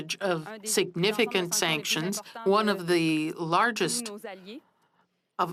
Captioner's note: speaking French